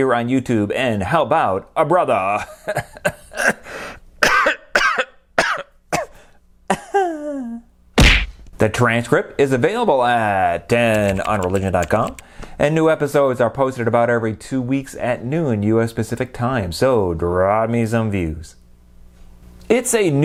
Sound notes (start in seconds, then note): 4.2 coughing; 10.8 typing